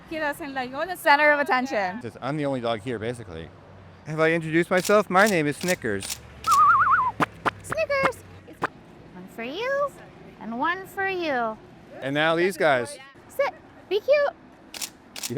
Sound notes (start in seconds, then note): 6.4 whistling and spitting